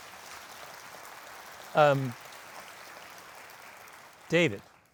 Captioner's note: audience applauding